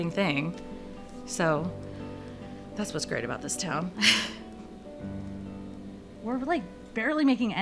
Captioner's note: laughing